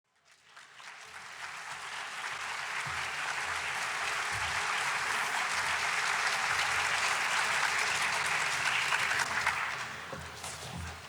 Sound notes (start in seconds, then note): 0.1 applause